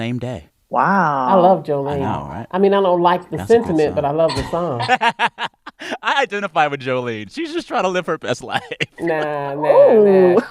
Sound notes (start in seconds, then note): 4.7 laughter